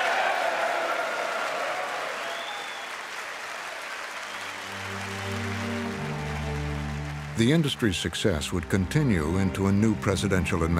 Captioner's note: audience cheers and applauds